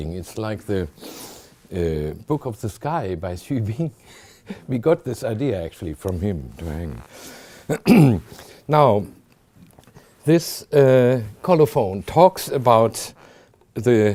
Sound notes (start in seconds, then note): 3.8 chuckling; 7.6 clears throat